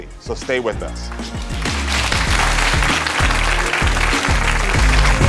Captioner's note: audience applauds